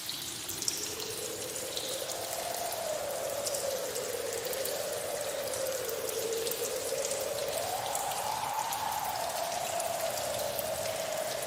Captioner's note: strong wind